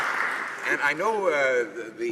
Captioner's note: applause